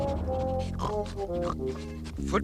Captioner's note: grunting